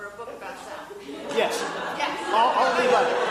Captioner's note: audience laughing